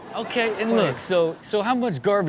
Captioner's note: Steelo laughs; crowd laughs